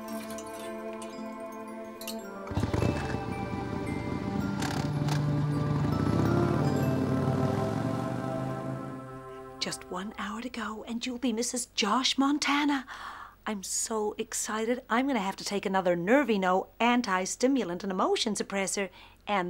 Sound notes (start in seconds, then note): 4.1 motorcycle engine revving